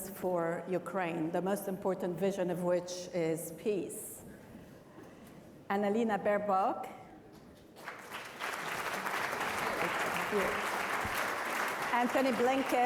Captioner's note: applause